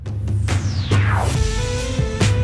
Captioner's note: electronic whooshing; energetic music